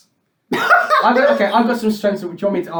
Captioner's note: laughs